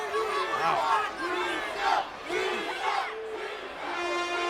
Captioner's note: crowd chanting